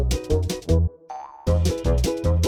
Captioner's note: cartoon spring sound; playful speedy music